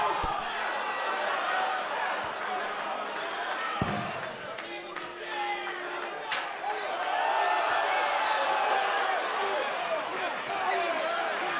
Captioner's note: crowd cheering